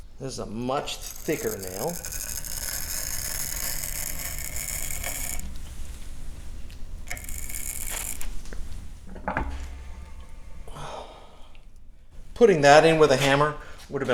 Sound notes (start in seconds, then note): 1.9 sound of wood fibers compressing